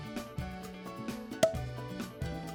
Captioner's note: popping sound